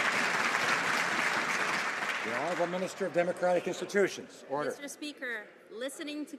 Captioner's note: some Applause